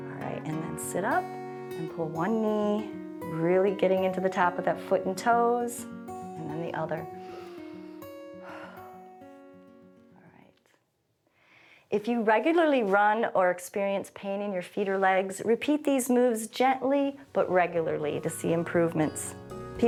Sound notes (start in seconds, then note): 8.4 inhales and exhales